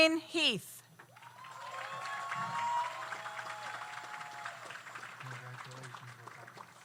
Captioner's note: audience applauds; audience cheers